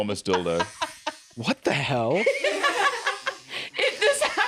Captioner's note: laugh; laughing